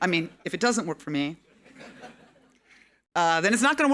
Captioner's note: audience laughing